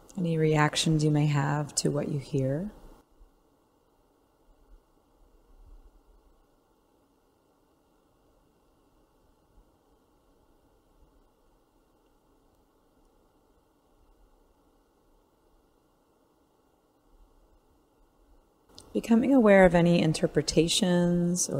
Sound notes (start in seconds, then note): 6.4 silence